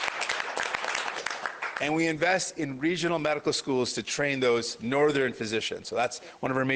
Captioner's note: applause